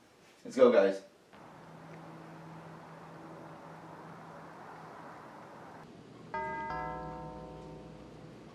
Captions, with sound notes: Let's go, guys. [door bell]